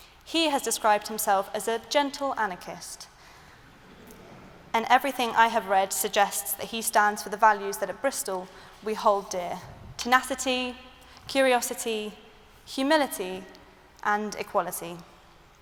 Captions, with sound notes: He has described himself as a 'gentle anarchist' [LAUGHTER] and everything I have read suggests that he stands for the values that at Bristol we hold dear: tenacity, curiosity, humility and equality.